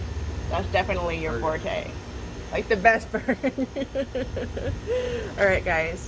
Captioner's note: laughs